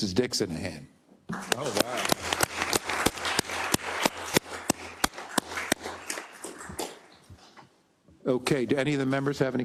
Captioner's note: applause